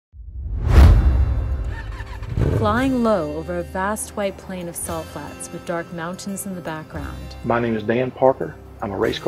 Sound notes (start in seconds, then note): 1.1 car engine starts and light music